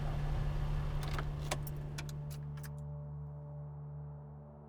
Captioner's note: car turning off